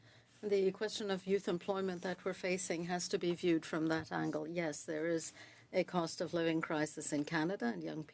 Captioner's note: speaking French